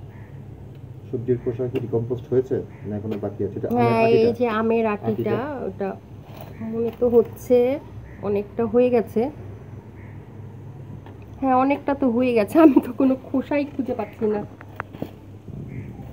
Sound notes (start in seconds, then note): 12.6 giggles